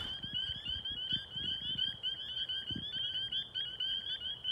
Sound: sound of spring peepers

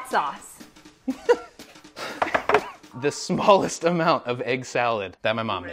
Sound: laughs

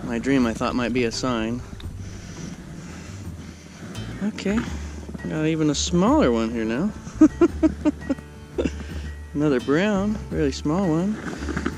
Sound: laughing

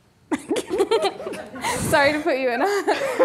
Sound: laughing

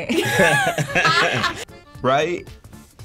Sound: laughing

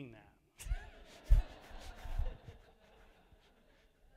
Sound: audience laughing

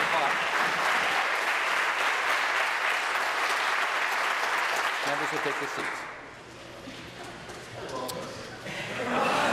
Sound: applause

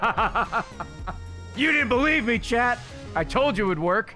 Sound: laughs

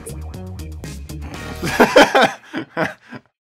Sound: funky music; laughter

